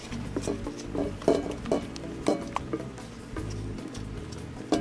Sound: bowls clanging

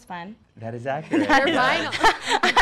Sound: laughing

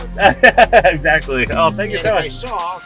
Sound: laughs

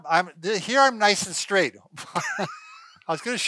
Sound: laughs

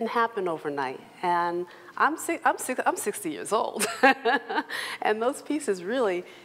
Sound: laughs

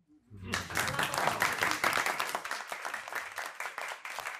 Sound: crowd applauding

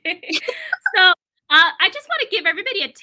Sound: laughter

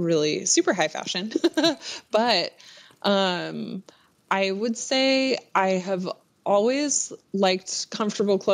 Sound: laughs

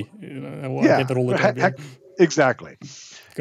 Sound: indistinct conversation

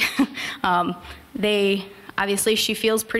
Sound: chuckle

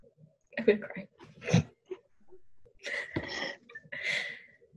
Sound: snickers

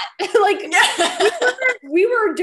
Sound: laughs

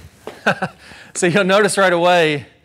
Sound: ball thwacks; chuckles

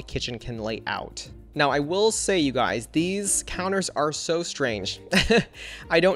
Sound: laughs

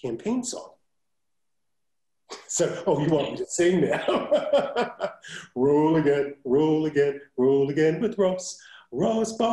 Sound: laugh

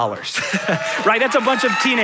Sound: audience cheering

